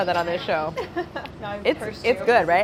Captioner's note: chuckles